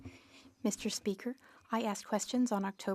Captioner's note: speaking French